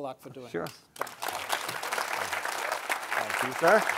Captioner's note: audience applauding